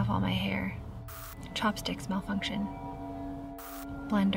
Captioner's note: static crackles; static crackles